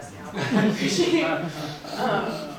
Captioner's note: crowd laughing